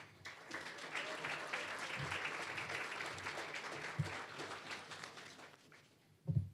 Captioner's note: applause